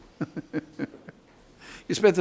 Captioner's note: judge laughs